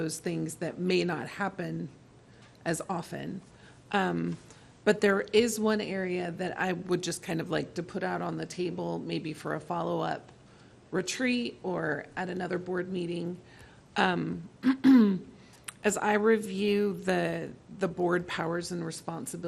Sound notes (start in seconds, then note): 14.6 clearing throat